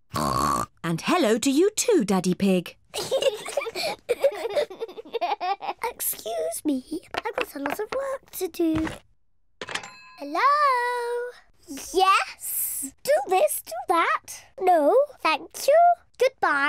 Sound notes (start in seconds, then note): 0.1 oinks; 2.9 both laughing